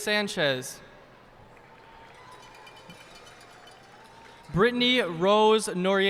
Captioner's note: cheers and applause